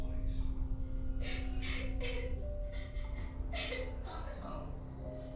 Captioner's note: gentle tense music; victim sobbing